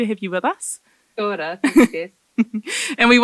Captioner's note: speaks foreign language; laughs